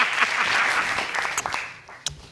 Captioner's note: laughing